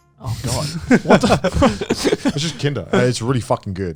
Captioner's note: men laugh